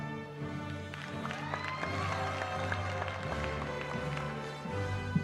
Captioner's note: applause